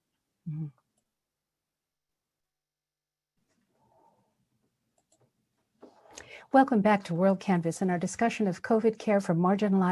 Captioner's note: silence